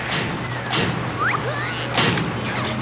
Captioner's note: Captain Flamingo grunts